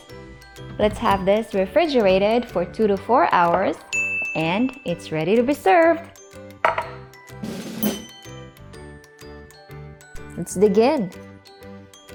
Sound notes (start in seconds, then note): 6.6 plate thuds; 7.8 timer Dings